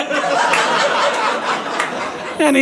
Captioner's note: audience laughing